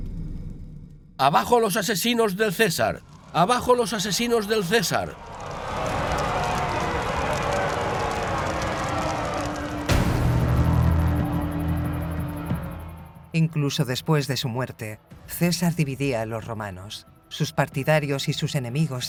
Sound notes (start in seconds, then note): 4.6 crowd jeering; 4.6 crowd yelling; 9.9 ominous music